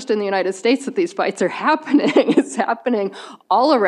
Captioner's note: chuckles